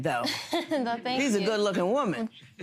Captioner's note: girl laughs